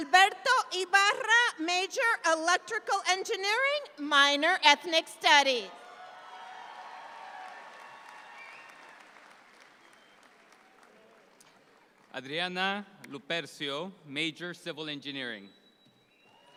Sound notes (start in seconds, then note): 5.8 audience applauds